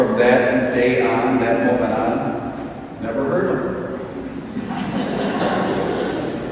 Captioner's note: audience laughs